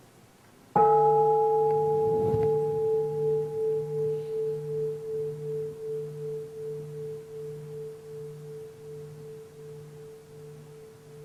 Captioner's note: bell